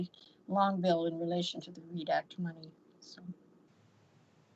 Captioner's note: speaking faintly